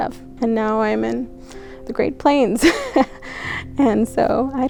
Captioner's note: laughs